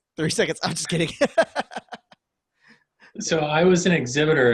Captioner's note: laughing